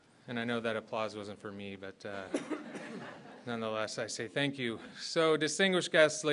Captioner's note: laughter